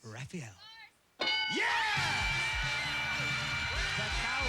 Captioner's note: cheers and applause